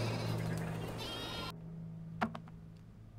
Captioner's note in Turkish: Keçi meleme sesi